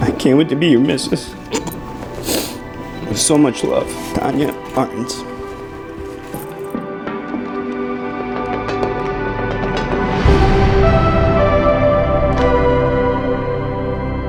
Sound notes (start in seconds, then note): 3.4 crying